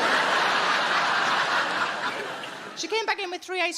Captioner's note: audience laughing